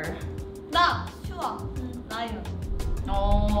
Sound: speaks in Korean

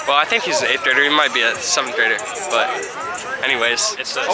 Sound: none

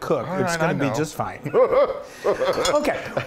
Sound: laughs

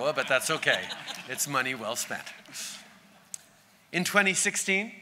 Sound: laughter

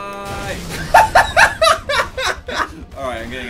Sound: laughs

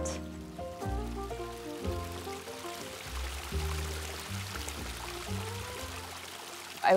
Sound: sound of a stream

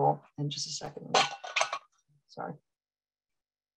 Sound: metal bangs

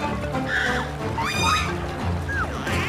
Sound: monkey shrieks

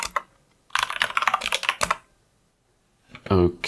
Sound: typing

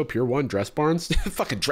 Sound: laughs

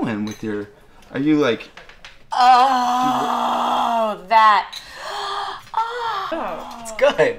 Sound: moaning

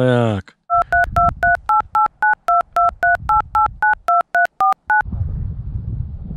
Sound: dialing

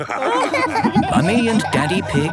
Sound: all laughing

